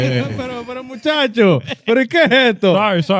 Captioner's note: speaking In Foreign Language